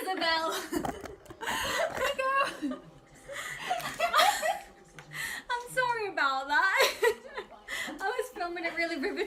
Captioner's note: laughter